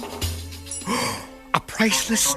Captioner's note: gasp